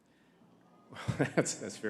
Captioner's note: audience moans